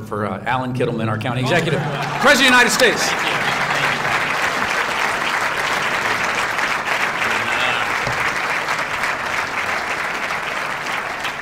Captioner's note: applause